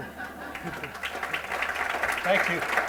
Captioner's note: applause